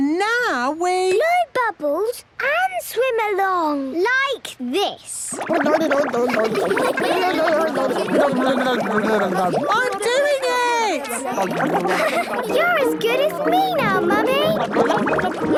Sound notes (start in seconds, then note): 6.1 children laughing